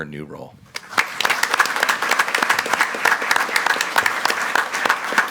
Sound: group applauding

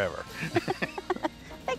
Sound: both laugh

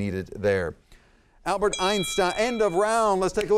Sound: bell ringing

